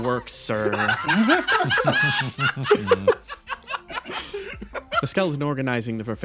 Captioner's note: laughs